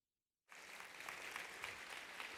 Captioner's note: applause